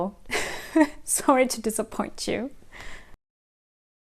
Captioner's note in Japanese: 苦笑